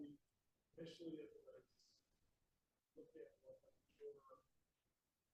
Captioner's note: faintly speaking